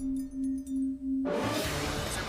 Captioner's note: dinging